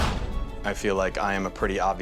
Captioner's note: whoosh